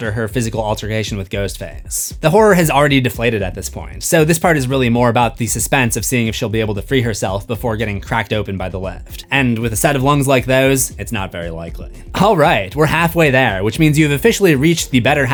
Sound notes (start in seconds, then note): none